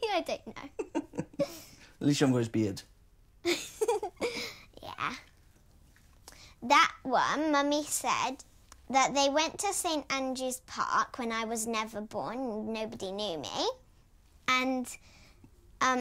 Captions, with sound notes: [LAUGHING] - I don't know! Atleast you haven't got his beard! [BOTH LAUGHING] Yeah. That one Mummy said... that they went to St Andrew's Park before I was born and nobody knew me and...